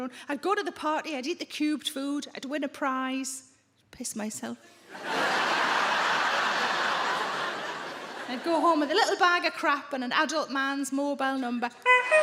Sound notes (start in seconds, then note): 4.9 audience laughing; 11.8 Sarah imitates horn honking